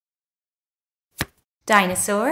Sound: the sound of a card being turned over can be heard

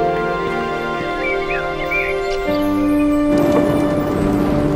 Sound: birds chirping

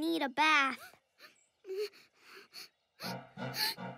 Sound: whimpering

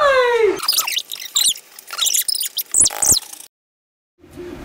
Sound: tape fast-forwarding

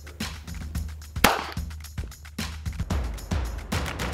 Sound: gunshot

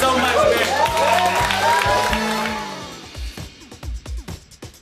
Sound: clapping and cheering

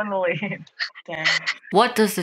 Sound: laughing

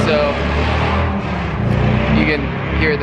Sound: motorcycle engines running

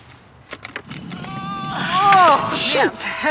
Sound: groaning

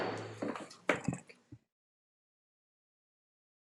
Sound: gavel pounds

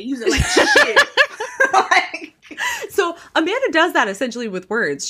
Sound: laughing

